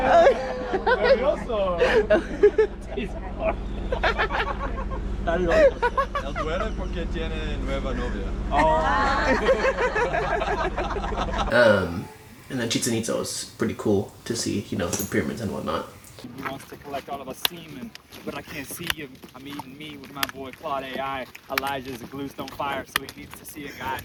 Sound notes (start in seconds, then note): 0.6 speaking in foreign language; 5.3 laughing; 6.9 speaking in foreign language; 8.5 laughing